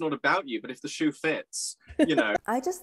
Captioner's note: laughing